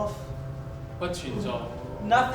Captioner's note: speaking in a foreign language